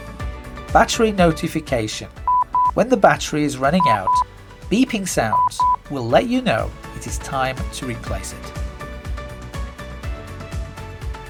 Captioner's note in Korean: 삐삐